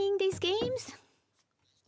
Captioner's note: speaking French